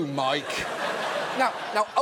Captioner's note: audience laughs